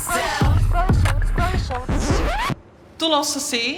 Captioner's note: record scratches